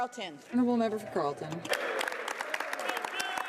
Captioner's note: speaking French